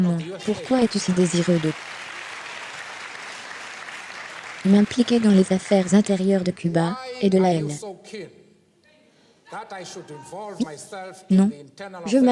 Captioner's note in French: Le public applaudit bruyamment